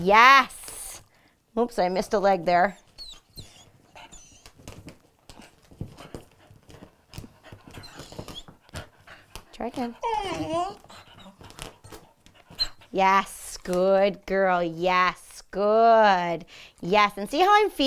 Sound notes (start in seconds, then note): 2.6 whimpering; 9.9 Funkee groaning